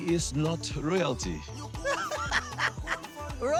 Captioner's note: laughing